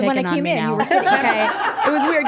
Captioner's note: group laughing